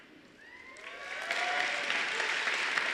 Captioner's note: applause